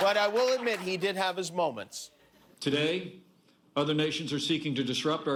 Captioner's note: laughter